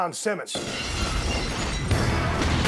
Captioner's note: glass breaking; hard-hitting music